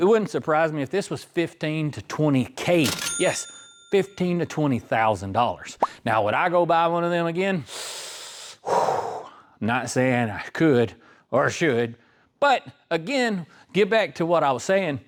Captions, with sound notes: wouldn't surprise me if this was 15 to 20K. (Bell Ringing) 구독과 좋아요 부탁드려요! buy one of them again? Not saying I could or should. But again, get back to what I was saying,